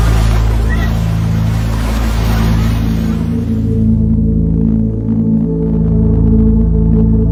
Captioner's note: waves rumbling and splashing